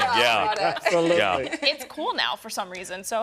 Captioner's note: laughter